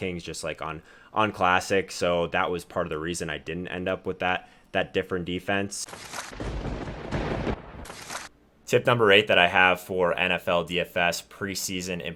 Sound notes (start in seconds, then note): 6.3 thunder rumbling